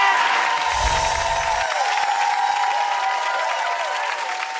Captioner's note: light twinkling